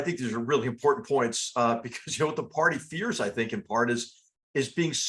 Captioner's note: laugh